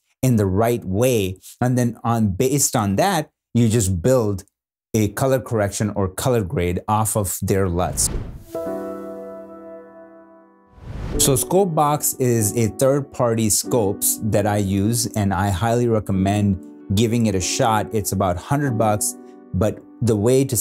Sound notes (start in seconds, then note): 7.8 whoosh sound; 8.5 gentle beats; 8.5 whoosh sound